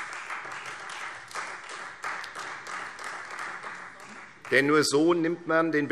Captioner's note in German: Beifall Freie Demokraten